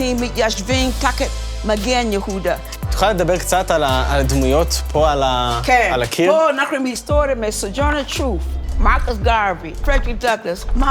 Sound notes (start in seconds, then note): 3.0 speaking in foreign language